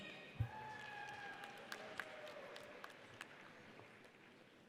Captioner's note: audience applauds